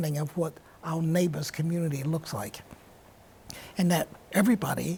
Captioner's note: none